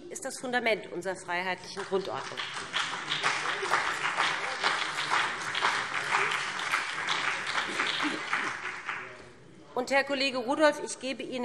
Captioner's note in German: Beifall BÜNDNIS 90/DIE GRÜNEN und vereinzelt CDU